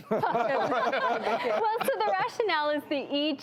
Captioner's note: laughs